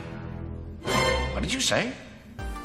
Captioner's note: dramatic sound